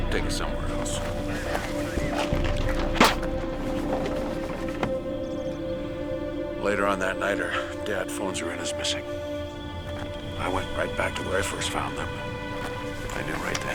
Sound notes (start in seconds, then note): 2.8 spitting; 2.8 window rattling